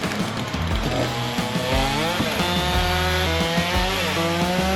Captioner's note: saw whirring